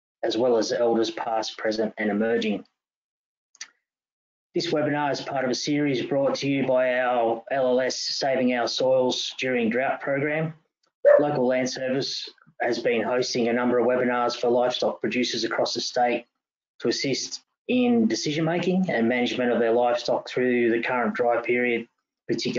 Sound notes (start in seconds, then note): 11.0 dog barking